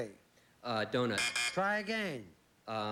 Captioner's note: buzz buzz